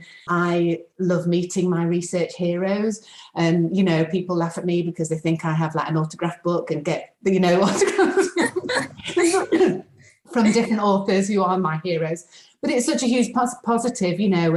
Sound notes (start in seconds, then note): 7.6 group laughing